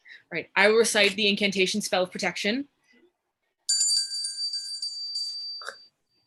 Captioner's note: bell rings